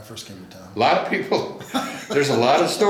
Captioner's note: laughs